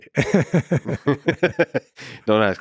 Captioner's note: laughs; Lex laughs